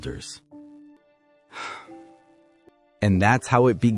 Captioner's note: sigh